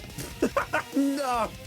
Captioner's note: laughing